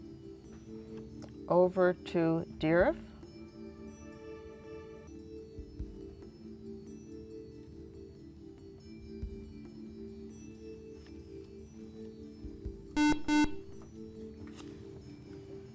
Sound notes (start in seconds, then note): 12.9 buzzer